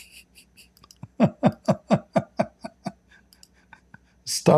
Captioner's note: Ketawa